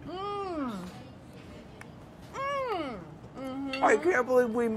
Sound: laughs; hums appreciatively

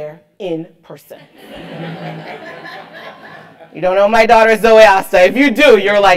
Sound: laugh

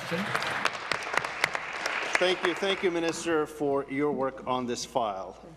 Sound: applause

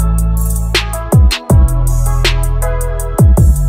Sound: none

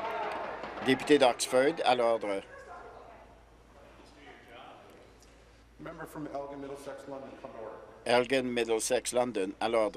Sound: tapping of desks

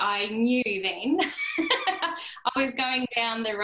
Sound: laughter

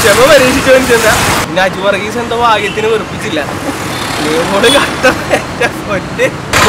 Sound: chuckles

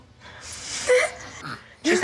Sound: laughs

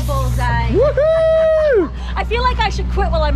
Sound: screaming

